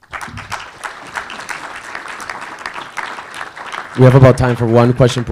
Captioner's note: audience applauding